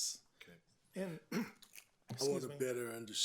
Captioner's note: clears throat